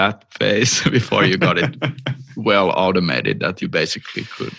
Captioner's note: laughter